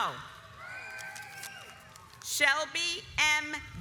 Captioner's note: audience applauds